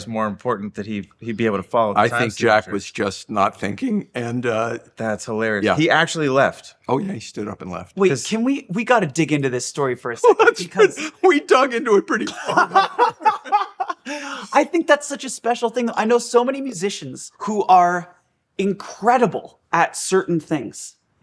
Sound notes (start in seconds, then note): 10.7 laughing; 12.2 all laughing